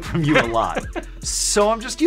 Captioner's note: laughs